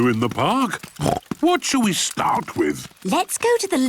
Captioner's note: snorts